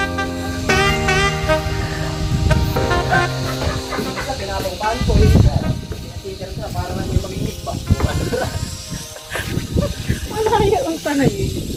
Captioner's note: man having conversation in Pangasinan dialect